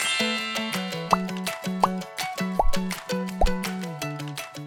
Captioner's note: tinkling; popping